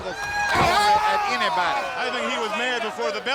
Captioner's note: wrestlers bellowing; body thudding